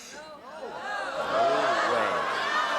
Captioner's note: applause and cheering